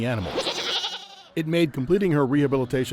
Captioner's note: goat whinnying